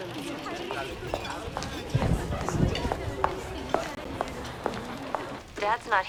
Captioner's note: thunder rumbling